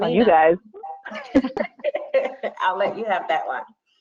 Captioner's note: laughing